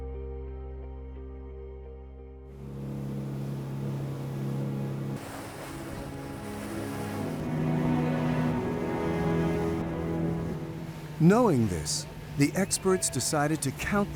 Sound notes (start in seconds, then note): 2.7 boat engine whirring; 7.0 majestic music